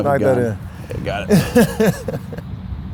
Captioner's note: laughs